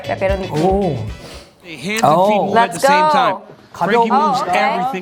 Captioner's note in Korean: 콧방귀